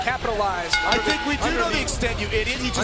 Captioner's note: bell ringing